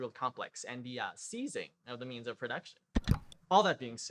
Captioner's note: click